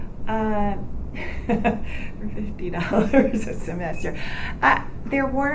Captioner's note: laughs